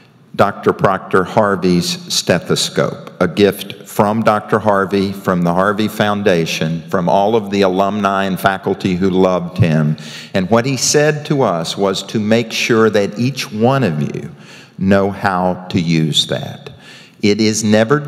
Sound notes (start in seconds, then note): none